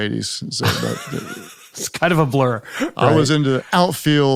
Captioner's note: laughing